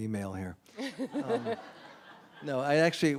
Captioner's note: laughter